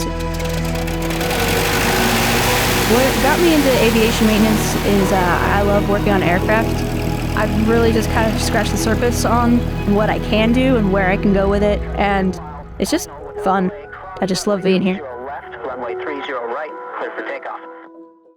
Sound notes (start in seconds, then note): 0.2 plane starting; 15.1 radio communications